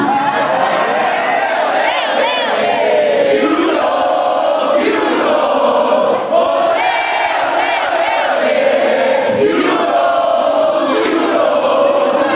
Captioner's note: chanting: Ole, ole, ole, ole